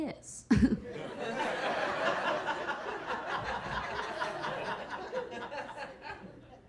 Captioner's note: Keira chuckling; audience laughing